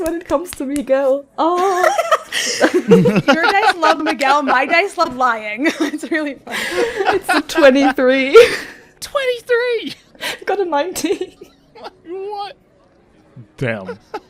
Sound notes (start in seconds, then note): 1.6 laughter; 5.5 laughing; 6.4 laughs